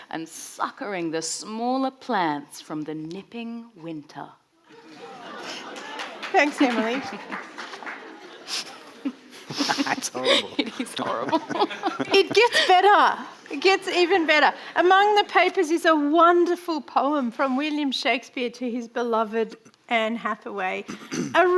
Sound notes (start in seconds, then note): 5.3 audience laughing; 9.4 chortling; 11.8 chuckles